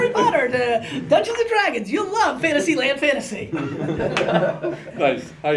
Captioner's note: laughter